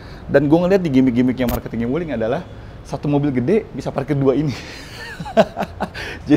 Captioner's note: laughing